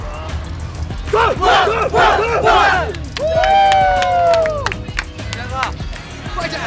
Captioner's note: shouts their chant with all their power